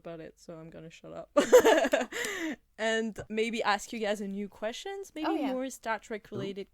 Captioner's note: laughter